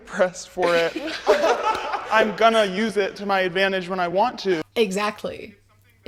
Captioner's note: laughter